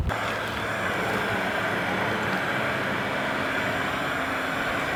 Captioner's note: blowing noise